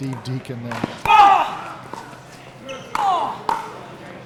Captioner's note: yelling